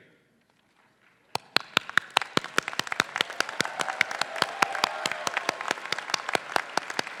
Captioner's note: faculty and graduates applauding